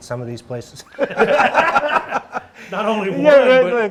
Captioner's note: everyone laughing